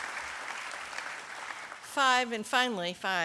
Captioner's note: applause